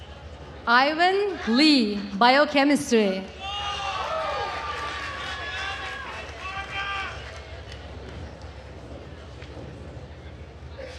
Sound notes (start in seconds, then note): 3.3 attendees cheering and applauding